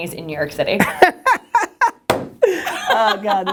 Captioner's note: laughter